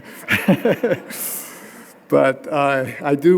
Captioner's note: laughing